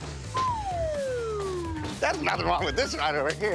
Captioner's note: audio whistling